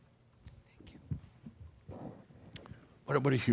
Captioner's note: whispers